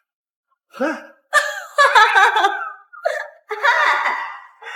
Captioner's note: laughing hysterically